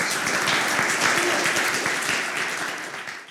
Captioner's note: applause